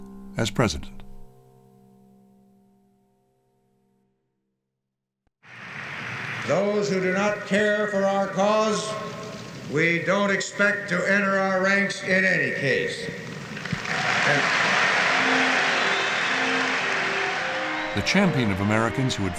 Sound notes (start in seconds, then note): 13.2 cheering and applause